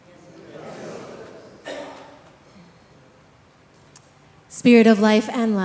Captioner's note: congregation chattering